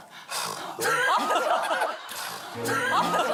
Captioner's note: sighs